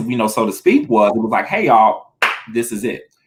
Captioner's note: claps